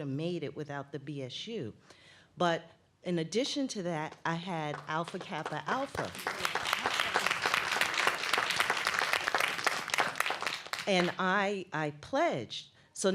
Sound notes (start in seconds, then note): 4.6 applause